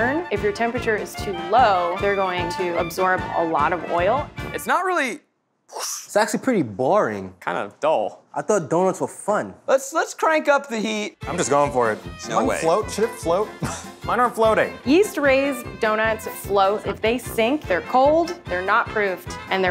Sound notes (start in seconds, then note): 5.5 whooshing